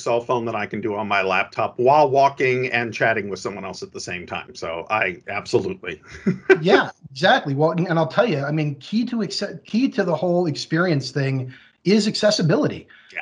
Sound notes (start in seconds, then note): 6.1 laughs